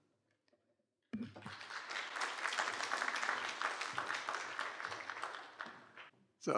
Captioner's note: applause